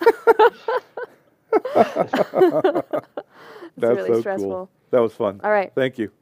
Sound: laughter

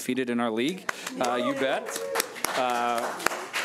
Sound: audience cheering

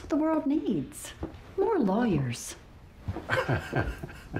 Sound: chuckles

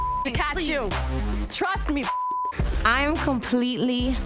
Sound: beep; beep

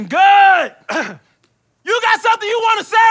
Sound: clears throat

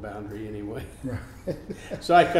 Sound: laughing

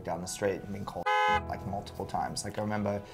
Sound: car honks

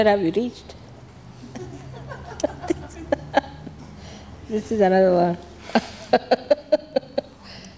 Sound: shri mataji laughs

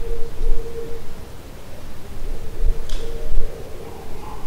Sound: owls hooting

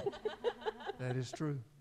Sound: laughing

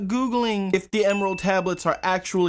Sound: bell Dings

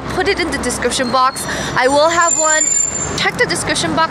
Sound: screech

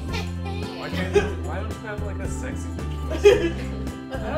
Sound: witch cackle

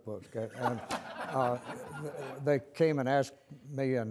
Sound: audience laugher

